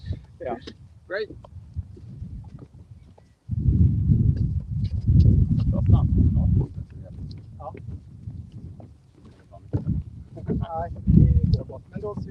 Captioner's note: water sounds